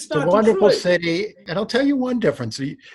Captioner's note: laughing